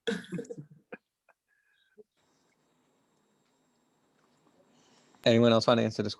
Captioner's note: laughs